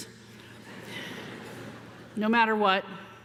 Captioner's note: audience laughing